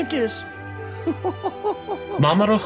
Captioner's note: chuckling